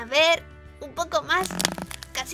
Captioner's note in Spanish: cracks